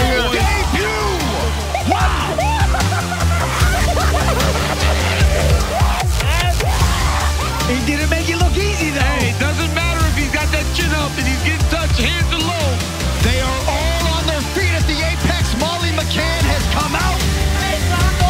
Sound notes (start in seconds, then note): 3.2 men laughing